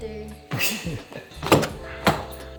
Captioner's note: chuckles